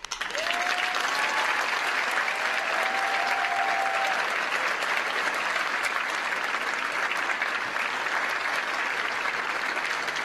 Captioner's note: applause